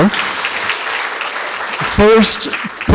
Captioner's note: applause